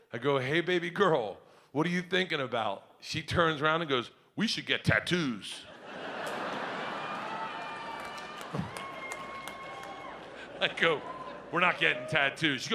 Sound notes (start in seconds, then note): 5.7 audience laughs; 9.0 woman cheers